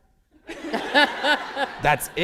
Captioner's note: laughter